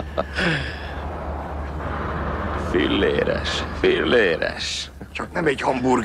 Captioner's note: laughing